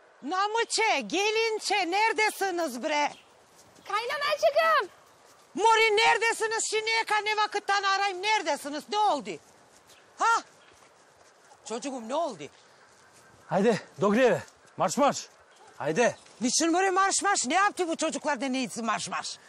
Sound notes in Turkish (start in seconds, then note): none